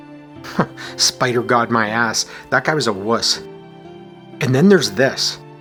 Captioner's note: chuckles